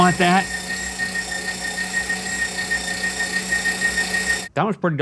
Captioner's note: meat grinder sounds